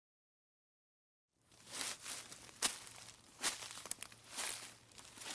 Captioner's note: grass rustling and crunching